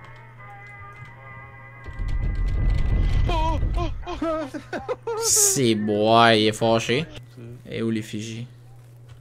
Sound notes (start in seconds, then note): 1.8 door shaking like someone wants to open it from the inside